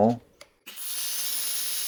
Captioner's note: hissing sound